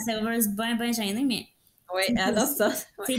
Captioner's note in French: rires